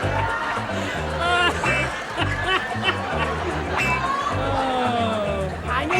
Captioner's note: audience laughter; laughter